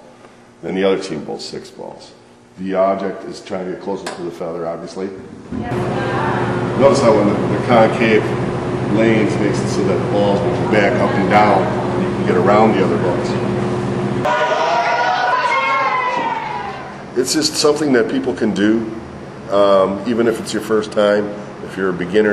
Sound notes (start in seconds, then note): 5.6 chatter; 14.2 cheering